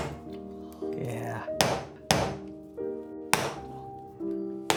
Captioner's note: machete thuds